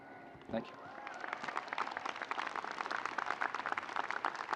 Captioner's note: audience applauding